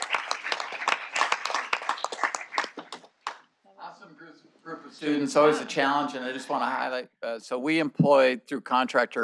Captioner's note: applause